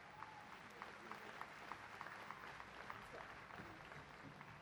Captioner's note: applause